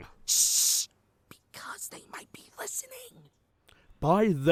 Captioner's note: whispering